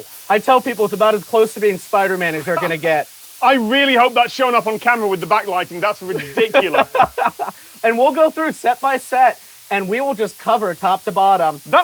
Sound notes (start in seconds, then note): 6.0 laughing